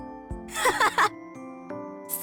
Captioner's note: laugh